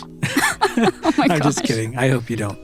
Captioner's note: laughing